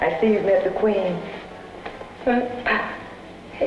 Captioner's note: laughing